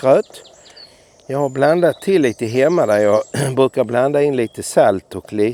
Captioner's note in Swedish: harklar sig